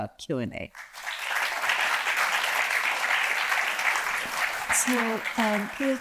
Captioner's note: audience applauds